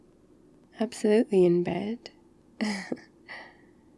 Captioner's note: laughs